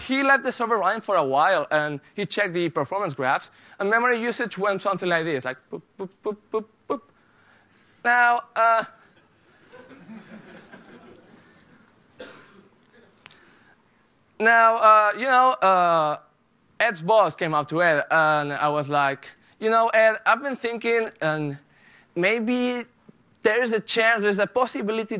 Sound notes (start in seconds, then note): 9.1 laughter